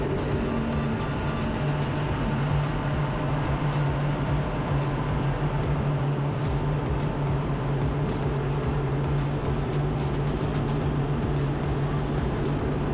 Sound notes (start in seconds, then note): 2.9 energetic music continues; 2.9 engine continues droning